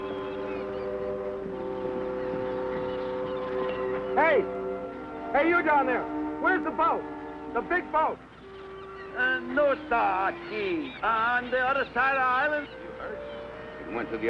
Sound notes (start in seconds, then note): 9.5 speaking in foreign language